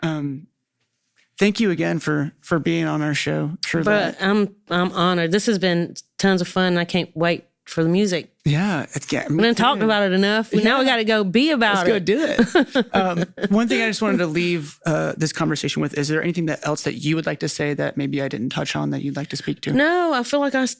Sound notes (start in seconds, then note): 11.7 laughing